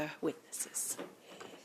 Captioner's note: speaking French